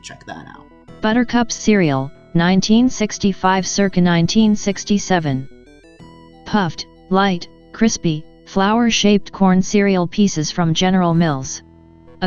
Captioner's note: text-to-Speech narration of text featured on-screen